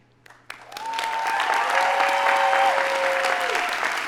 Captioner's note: audience applauding